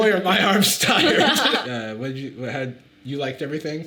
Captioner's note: both laughing